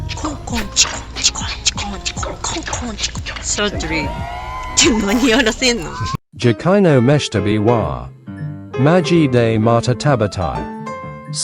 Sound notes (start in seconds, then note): 4.7 laughs